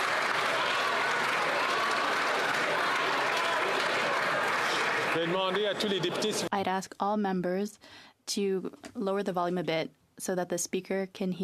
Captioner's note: some Applause